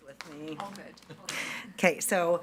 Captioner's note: attendees laughing